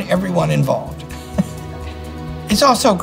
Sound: chuckles

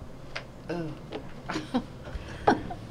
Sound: chuckles

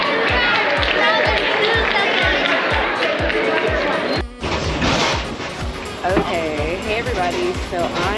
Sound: applause

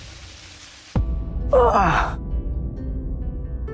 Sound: Dhruv grunts

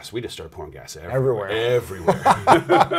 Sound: laughs

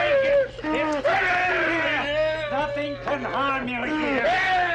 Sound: Barney wails

